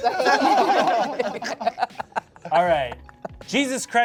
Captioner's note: laugh